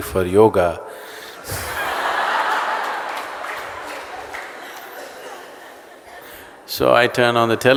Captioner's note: laughter/Applause